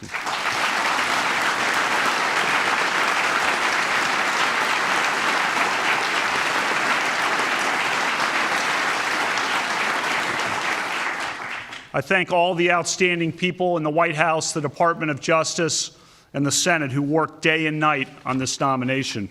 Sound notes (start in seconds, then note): 4.2 applause